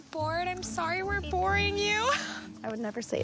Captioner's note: laughs